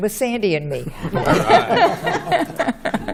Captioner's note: laughter